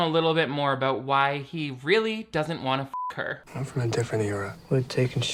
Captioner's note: beep